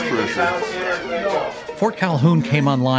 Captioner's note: people chattering